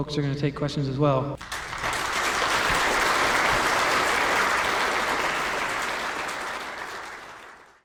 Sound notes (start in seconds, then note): 1.4 applause